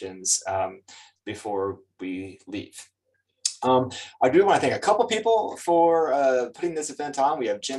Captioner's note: lips smack